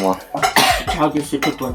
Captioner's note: sneezes in Lithuanian